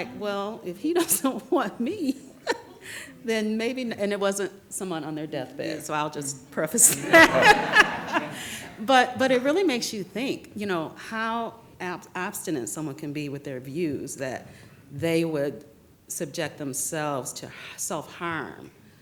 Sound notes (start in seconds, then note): 6.8 laughs